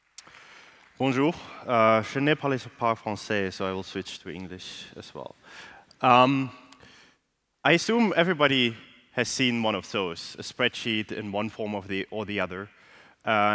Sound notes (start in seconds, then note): 0.7 french